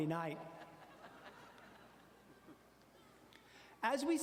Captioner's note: audience laughing